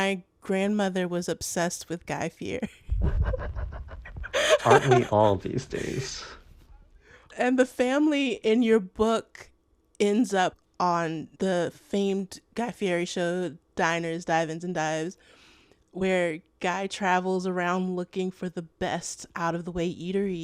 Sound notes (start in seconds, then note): 2.8 laughter